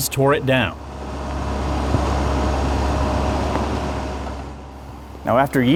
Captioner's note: construction equipment running